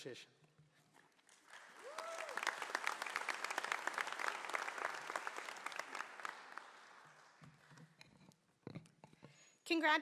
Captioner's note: applause